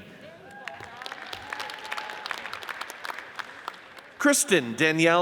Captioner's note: audience cheers and applauds